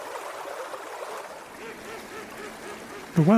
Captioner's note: ducks quacking